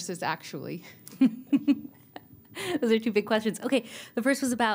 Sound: laughter

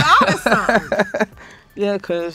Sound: laughs

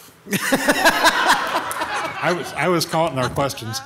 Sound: all laughing

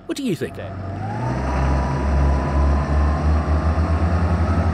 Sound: engine revving

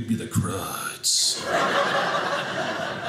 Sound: audience laughing

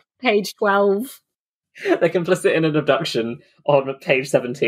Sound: laughing

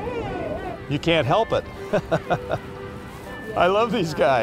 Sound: chuckles

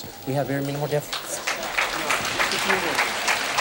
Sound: applause

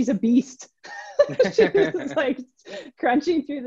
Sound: laughing

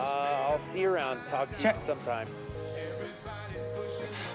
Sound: line beeps

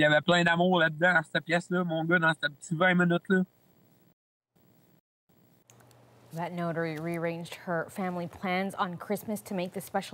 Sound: speaking French

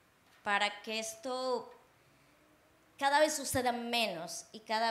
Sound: speaking Spanish

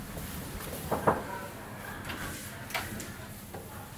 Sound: knock

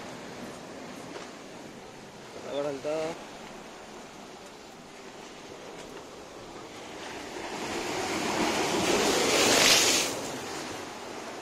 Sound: sea Waves sound

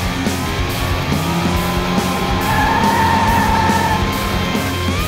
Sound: tires screeching

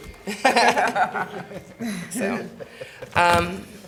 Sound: laughing

